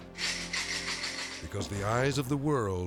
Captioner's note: jars shaking